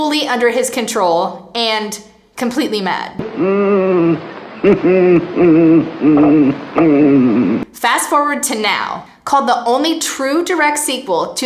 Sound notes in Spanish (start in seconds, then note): 3.2 gemidos; 3.2 risas espeluznantes